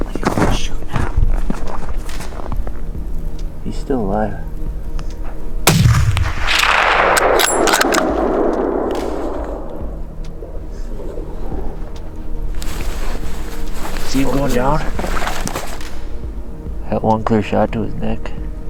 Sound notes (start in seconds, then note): 5.6 gun fires